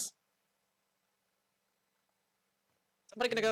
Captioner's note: silence